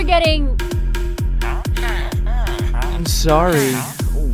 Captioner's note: happy villager noises